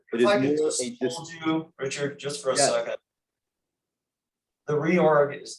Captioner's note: none